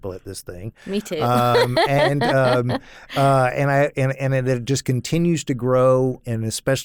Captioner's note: laughs